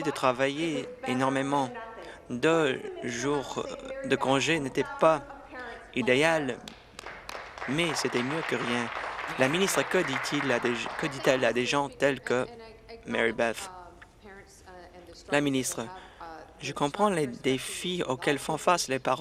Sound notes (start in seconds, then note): 10.7 applause